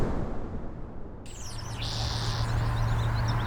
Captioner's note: birds chirping